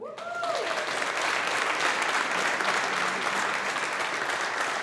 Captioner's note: audience applauding